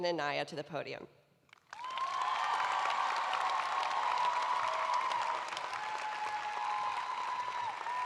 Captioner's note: cheers and applause